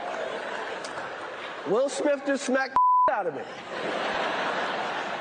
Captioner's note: laughs